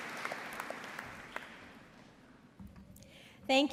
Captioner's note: applause